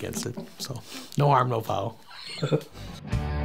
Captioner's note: laughing